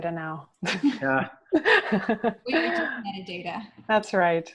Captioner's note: laugh